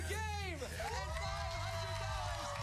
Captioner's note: cheers and applause